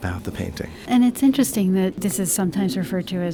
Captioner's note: voiceover